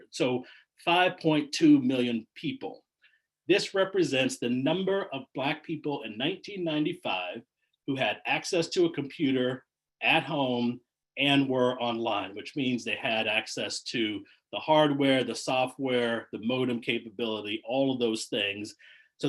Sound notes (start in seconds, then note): none